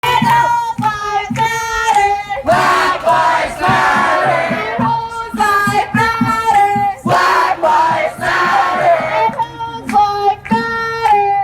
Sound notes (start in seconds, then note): 2.6 crowd; 7.4 crowd; 10.9 chanting continues